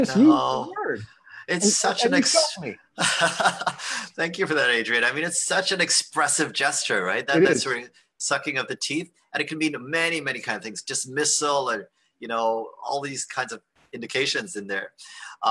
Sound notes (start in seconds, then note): 3.0 laughter